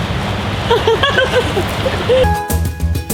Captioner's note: giggles; light upbeat music